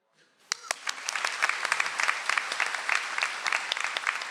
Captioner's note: audience applauds